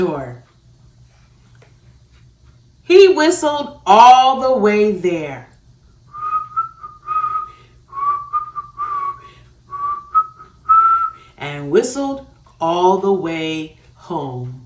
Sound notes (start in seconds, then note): 7.8 whistles